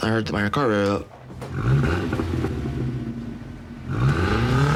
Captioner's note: revving